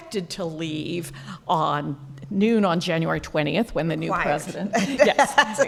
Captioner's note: laughing